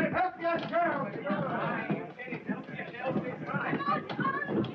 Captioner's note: people clamoring